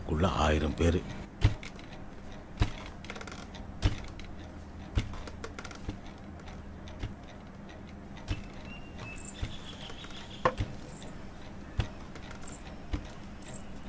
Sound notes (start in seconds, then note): 1.5 footsteps